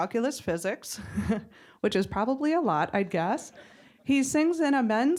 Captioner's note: laughing